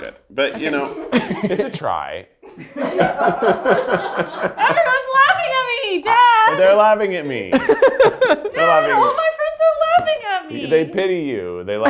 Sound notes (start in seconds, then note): 2.3 and crew laugh